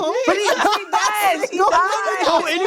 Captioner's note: laughter